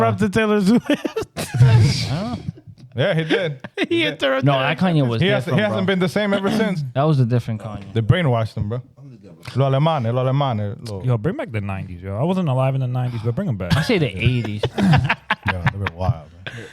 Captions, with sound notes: He interrupted Taylor Zuiz. (Laughing) Yeah, he did. He interrupted. No, that Kanye was different, bro. He hasn't been the same ever since. That was a different Kanye. The brainwashed him, bro. I'm the devil. (Speaking Spanish) Yo, bring back the 90s, yo. I wasn't alive in the 90s, but bring them back. I say the 80s. (Laughing) Yeah, they've been wild, man.